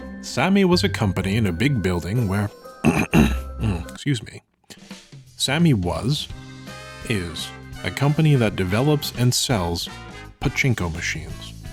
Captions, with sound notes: Sammy was a company in a big building where, (clears throat) Excuse me. Sammy was, is, a company that develops and sells pachinko machines.